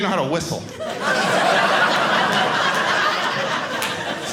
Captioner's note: audience laughing